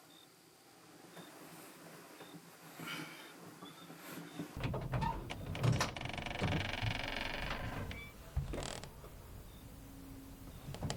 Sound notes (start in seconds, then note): 6.1 door creaks